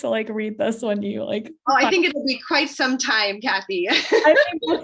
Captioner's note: laughs